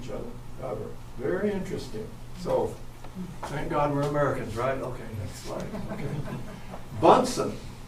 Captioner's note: chuckling